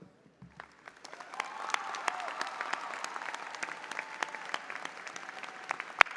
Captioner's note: audience applauding and cheering